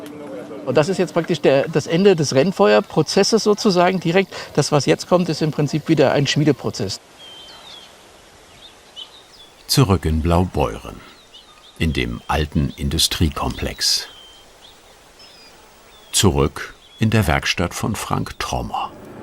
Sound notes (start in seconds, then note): 7.0 birds chirping